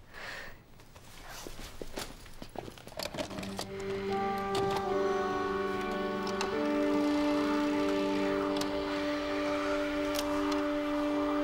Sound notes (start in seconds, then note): 3.1 somber music; 5.9 television static